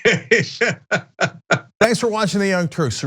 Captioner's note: laugh